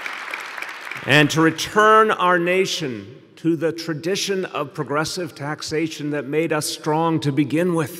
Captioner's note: applause